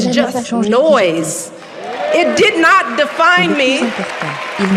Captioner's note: cheering